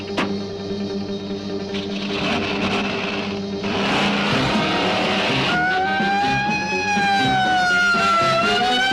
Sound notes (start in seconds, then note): 1.7 engine revving; 5.7 sirens blaring